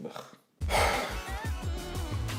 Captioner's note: big sigh